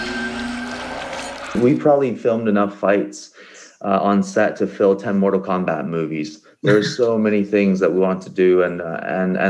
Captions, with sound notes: - We probably filmed enough fights on set to fill 10 mortal combat movies. (laughter) There's so many things that we want to do and, and